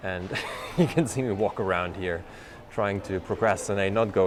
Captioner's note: laughs